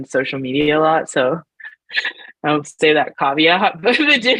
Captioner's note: laughs